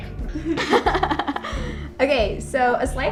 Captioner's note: crew member and laughing